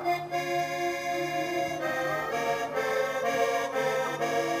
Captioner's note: πάλι ακούγεται μελωδικό τερέτισμα